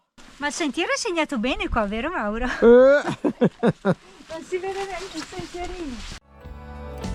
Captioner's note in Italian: risate